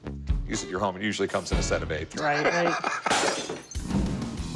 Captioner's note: laughs